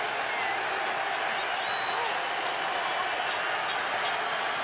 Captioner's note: cheering